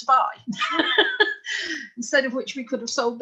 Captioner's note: laughing